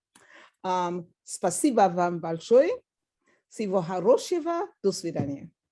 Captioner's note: speaking Russian